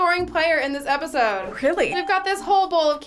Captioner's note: bell rings